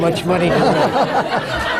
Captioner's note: laughter